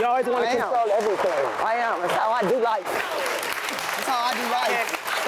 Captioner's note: audience clapping